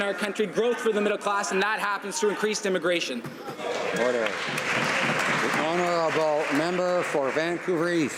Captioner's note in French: applaudissements